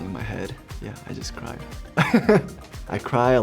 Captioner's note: laughs